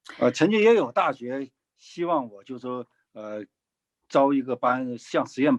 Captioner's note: speaking in foreign language